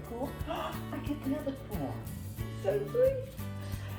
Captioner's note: gasps